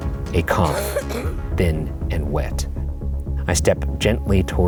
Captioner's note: child coughing